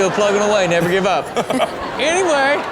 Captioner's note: Steelo laughs